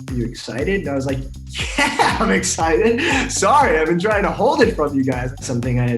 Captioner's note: laugh